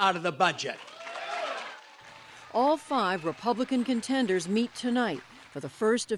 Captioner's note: cheering and applause